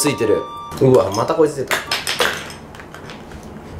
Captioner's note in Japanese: カランカラン（落とす）